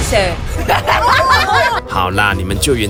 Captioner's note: laughs in unhinged tactics